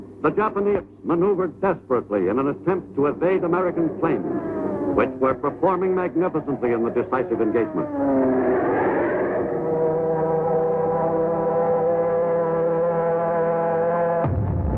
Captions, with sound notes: the Japanese maneuvered desperately in an attempt to evade American planes, which were performing magnificently in the decisive engagement. (airplane engines roaring)